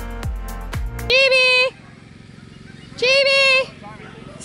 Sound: generator noise

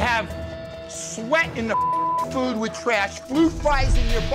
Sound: beep

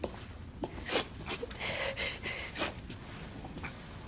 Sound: sniffles

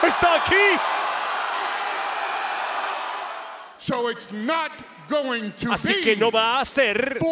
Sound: applause

